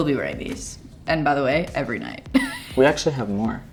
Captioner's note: laughs